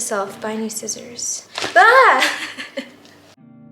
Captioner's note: laughs